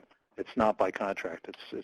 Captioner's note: static